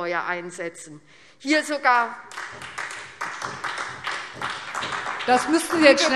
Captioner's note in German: Beifall SPD